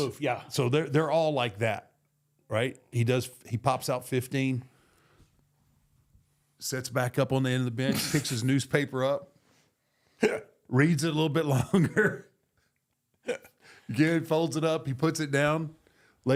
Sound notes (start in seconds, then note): 7.8 JBL laughing